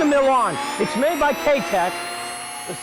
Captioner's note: blender spins